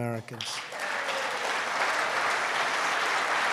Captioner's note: applause